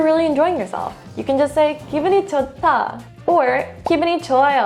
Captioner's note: speaking in foreign language; speaking in Korean; bubble bursting